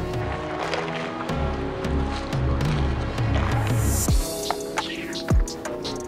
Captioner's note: paint splattering; upbeat electronic music